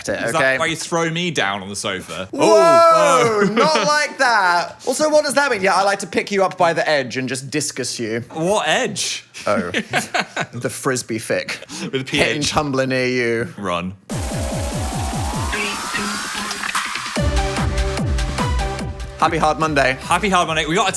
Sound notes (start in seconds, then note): 9.4 laughs; 14.1 upbeat music